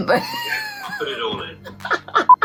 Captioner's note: laughing